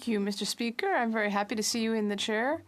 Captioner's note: speaking French